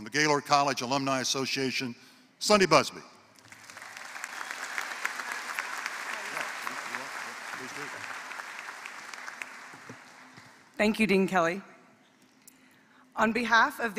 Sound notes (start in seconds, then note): 3.4 applause